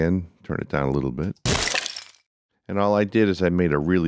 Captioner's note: crunching sound